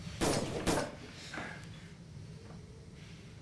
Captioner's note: gun bangs